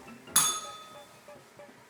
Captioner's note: bell rings